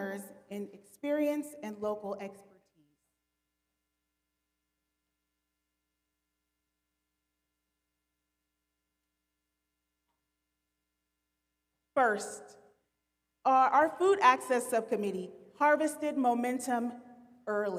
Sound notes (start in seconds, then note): 8.3 audio cuts out